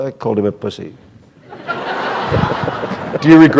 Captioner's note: laughter